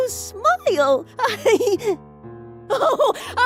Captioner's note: laughs